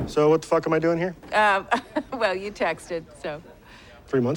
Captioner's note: chuckles